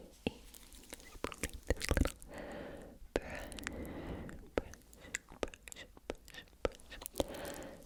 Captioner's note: brush, brush, brush